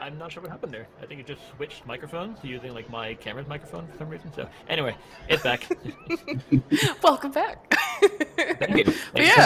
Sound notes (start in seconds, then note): 5.3 laughter